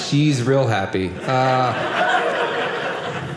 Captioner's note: audience laughing